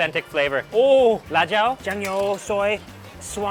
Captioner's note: speaks in a foreign language